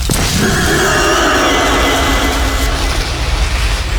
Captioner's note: howl of pain